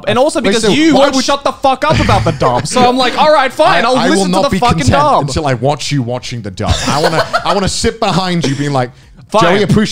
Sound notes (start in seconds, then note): 8.3 laughing